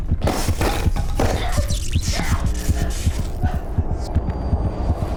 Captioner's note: objects whirring